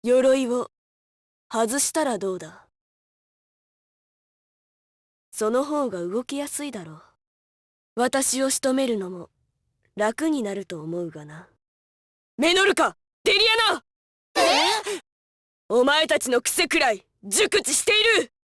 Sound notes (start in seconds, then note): 3.7 silence; 14.4 surprised gasp